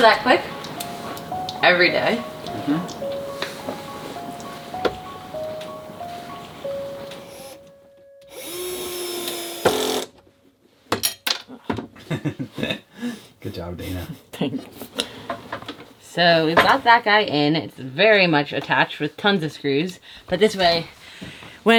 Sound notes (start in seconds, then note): 8.2 drill whirring; 10.9 clanging; 12.0 laughing